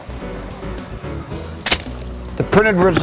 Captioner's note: paper tearing